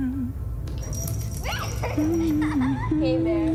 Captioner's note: dog tag jingling; child laughs; dog owner humming